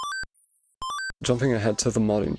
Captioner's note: the sampled beep, in mario 3